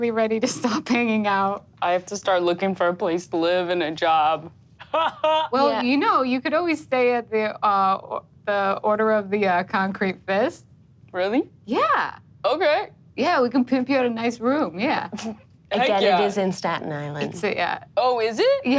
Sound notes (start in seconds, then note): 4.8 laughs